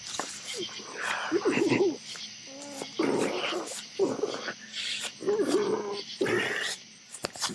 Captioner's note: feet shuffling; man straining